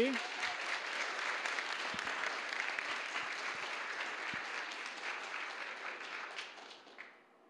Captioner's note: applause